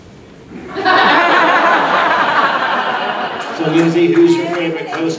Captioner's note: audience laughing